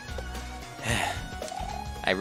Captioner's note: sigh